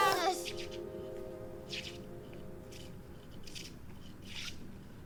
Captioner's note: wood scraping